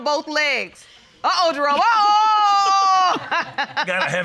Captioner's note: laughs